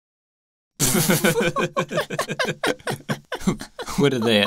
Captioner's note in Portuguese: Ambos riem